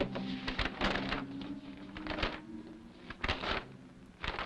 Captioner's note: papers rustling